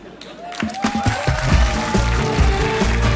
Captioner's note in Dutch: applaus